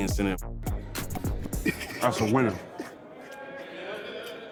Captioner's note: laughing